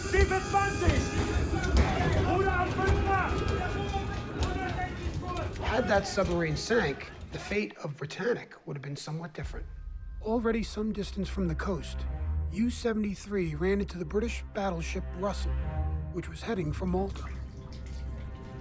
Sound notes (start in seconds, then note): 0.0 man yelling in foreign language; 0.2 captain yelling in foreign language; 1.9 men chattering in foreign language